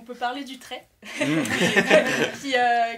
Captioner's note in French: rires